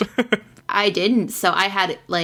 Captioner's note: laughs